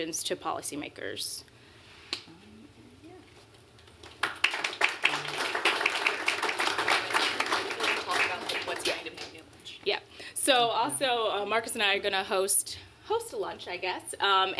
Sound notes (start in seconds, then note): 4.0 applause